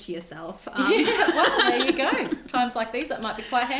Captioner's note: both laugh